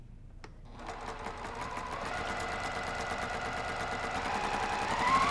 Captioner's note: sewing machine sound